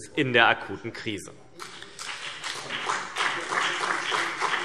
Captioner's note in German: Beifall CDU und BÜNDNIS 90/DIE GRÜNEN